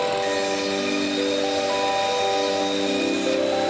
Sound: blade whirring

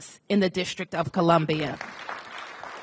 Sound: applause

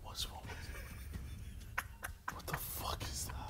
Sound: man laughs

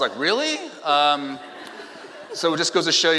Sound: laughing

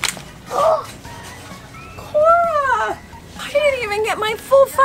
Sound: gasps

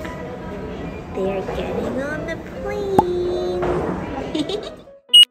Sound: laughs

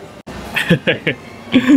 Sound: chuckles

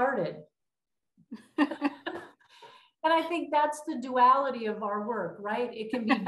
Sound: laughter

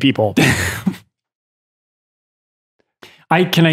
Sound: Father Innocent laughs

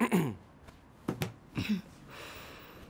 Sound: thud of the book

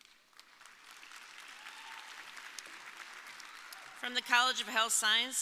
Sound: audience applauding

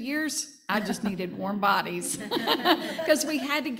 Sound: panel laughing

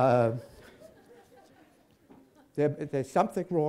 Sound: laughter

